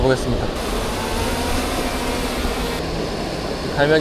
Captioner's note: drone takeoff